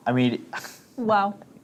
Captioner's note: poof